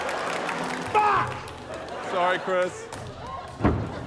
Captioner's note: laughter; laughter, applause